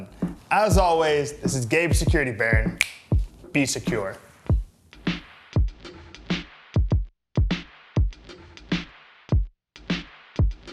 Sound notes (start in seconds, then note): 2.7 snaps fingers